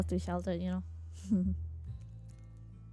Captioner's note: laughs